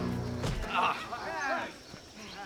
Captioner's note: thud